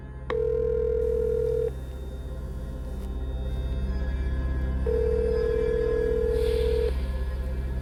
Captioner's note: phone ringing